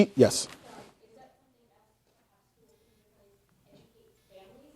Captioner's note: speaking quietly